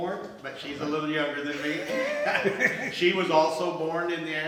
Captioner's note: laughs